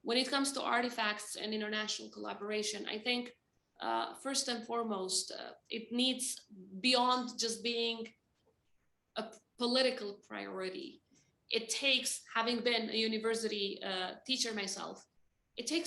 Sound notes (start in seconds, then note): none